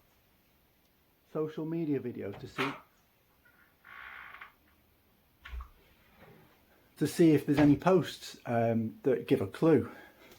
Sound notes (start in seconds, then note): 2.2 door opens